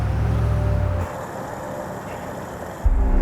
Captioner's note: gas flowing; suspenseful music